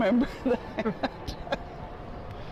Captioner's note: laughter